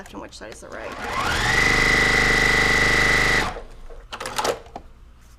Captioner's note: machine whirring